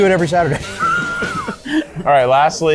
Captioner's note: laugher